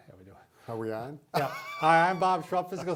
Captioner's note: laughing